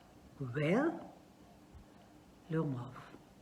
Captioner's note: pause